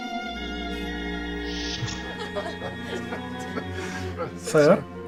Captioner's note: crewmen laugh